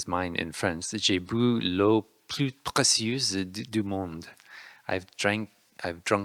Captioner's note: speaking in French